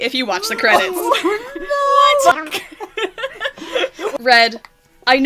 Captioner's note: laughing